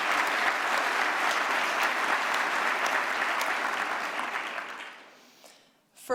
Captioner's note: applause